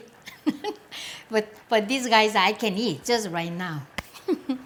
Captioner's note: laughs; laughs